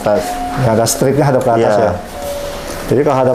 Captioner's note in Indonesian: suara bel pintu